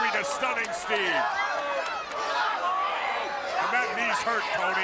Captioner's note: crowd chatter